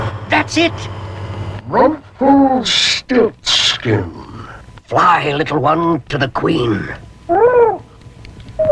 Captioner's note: echoed